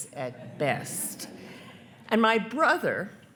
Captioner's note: attendees laughing